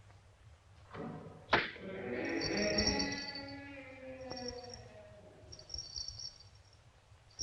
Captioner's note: door creaking; bells jingling